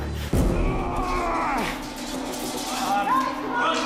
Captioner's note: groaning; groans